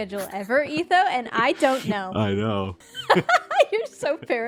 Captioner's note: laughs